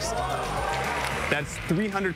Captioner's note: audience cheers; audience applauds